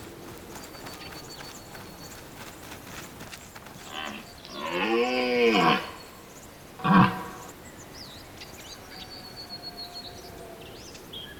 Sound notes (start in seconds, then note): 4.4 deer roars